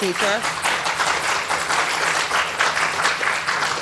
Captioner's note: applause